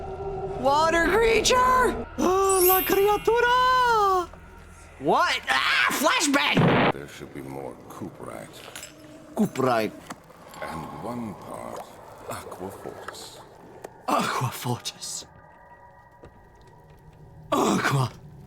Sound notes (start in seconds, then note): 9.4 Dracula voice; 14.1 mimicking breathlessness